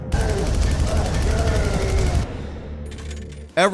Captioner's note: gun firing